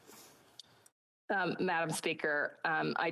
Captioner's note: speaking Indigenous Language